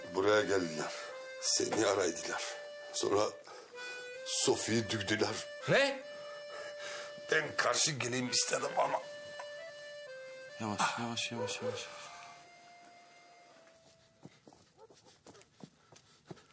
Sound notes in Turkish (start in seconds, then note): none